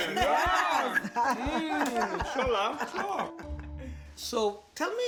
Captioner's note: all laugh